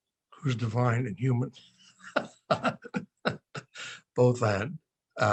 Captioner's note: laughing